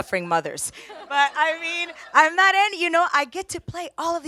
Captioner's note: audience laughs